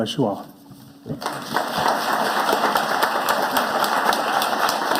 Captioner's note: audience applauding